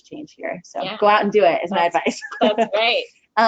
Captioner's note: chuckles